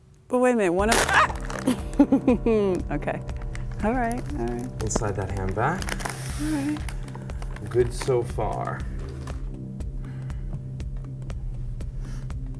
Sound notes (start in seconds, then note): 1.7 laughter